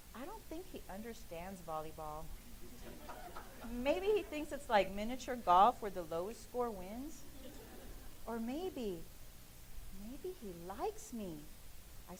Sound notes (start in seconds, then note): 2.5 laughing; 7.2 laughing